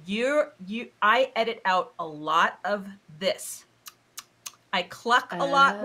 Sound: lips smacking

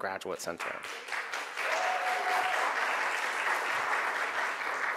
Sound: crowd applauds

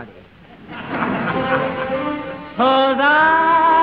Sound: audience laughing

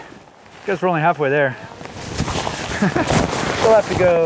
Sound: laughs

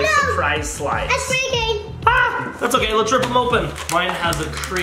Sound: none

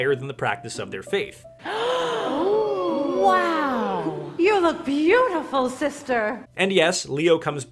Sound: gasps

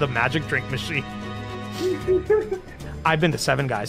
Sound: laughter

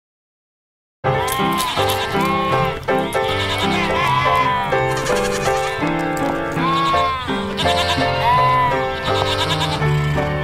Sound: bleating, music playing

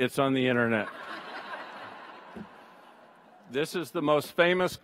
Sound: audience laughs

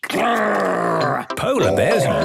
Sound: loud growls

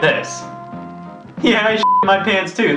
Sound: beep

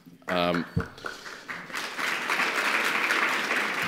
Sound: applause

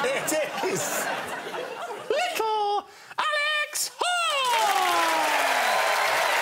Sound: chuckling; in high-pitched voice; audience cheers and claps

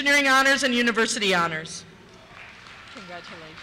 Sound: cheers

